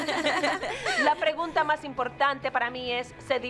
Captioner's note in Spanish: todas riendo